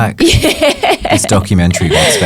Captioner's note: laughs